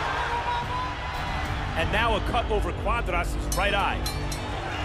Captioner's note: bell dings